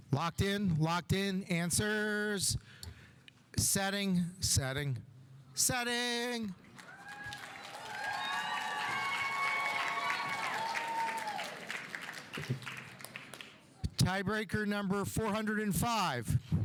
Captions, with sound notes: Locked in, locked in, answers. Setting, setting, setting. (audience applauding) (audience cheering) Tie breaker number 405.